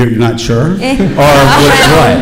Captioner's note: laughing